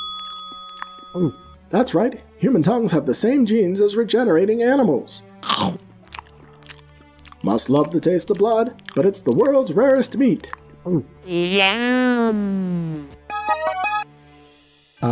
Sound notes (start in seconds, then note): 0.0 chewing; 0.0 ding. Gulp; 5.4 snap. Chewing